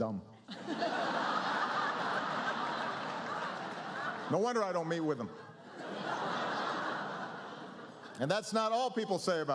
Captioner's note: laughter